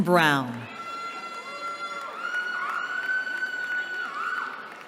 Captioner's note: cheering